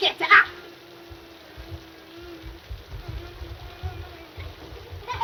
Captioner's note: children crying